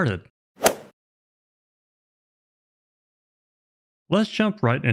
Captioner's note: golf swing sound effect